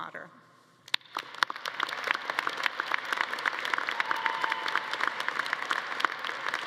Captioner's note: all clapping; audience cheering